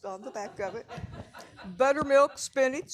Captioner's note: audience laughing